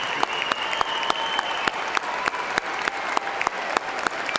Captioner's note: cheers and applause